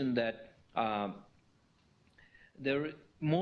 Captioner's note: pause